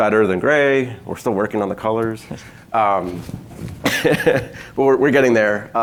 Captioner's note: laughs